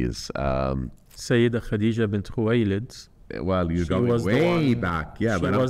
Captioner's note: speaking foreign language